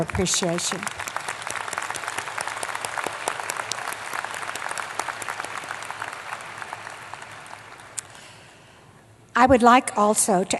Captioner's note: applause